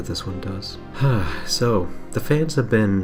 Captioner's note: sigh